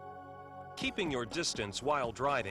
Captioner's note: relaxed music; voiceover